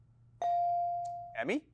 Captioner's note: bell chiming